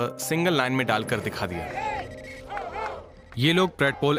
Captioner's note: protestors chanting